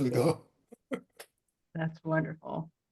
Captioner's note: chuckles